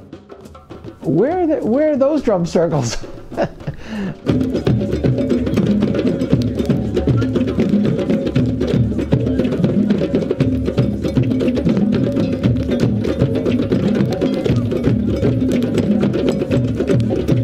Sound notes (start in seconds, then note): 2.8 laughs; 4.3 energetic drumming